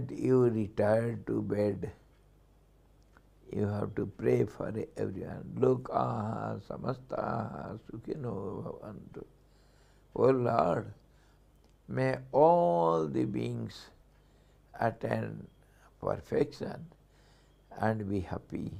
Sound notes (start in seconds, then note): 6.2 sanskrit